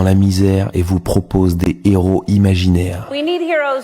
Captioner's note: french dialogue continues